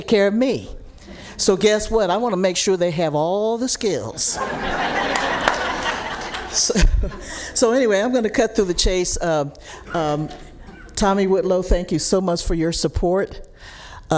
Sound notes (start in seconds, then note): 7.9 laughs